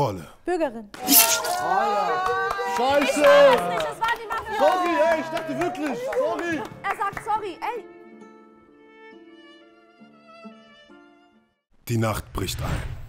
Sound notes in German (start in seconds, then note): 1.6 Jubel; 7.9 Ruhige Musik